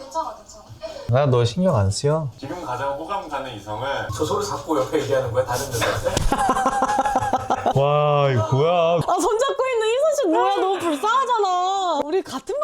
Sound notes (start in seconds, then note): 5.5 laughing